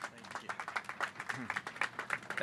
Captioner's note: applause